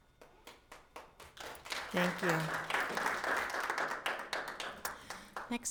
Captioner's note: audience applauds